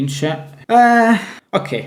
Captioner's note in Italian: sospiro di sollievo